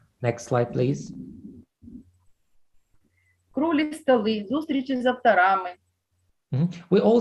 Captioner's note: foreign Language